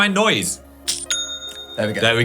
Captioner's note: bell dings